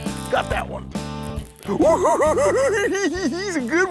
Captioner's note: giggling